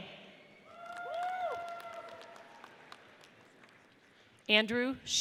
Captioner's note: audience cheers